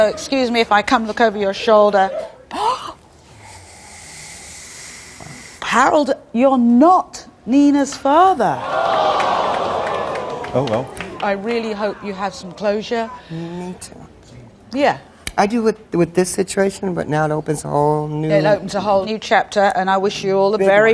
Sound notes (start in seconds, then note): 2.1 gasps; 8.6 audience gasps